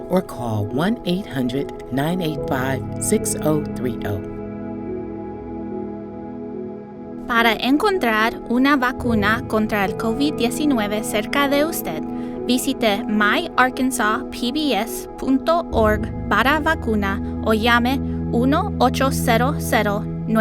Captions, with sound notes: or call 1-800-985-6030. (gentle music) (speaking in foreign language)